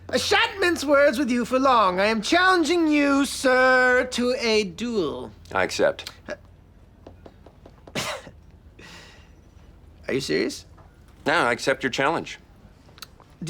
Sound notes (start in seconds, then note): 7.7 scoffs